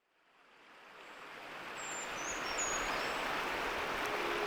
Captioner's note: water flowing